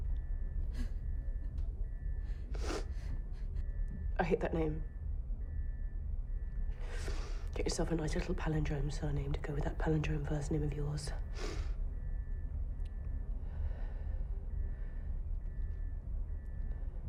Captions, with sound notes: (whimpers) I hate that name. Get yourself a nice little palindrome surname to go with that palindrome first name of yours,